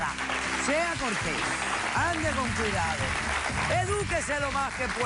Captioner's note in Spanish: Aplausos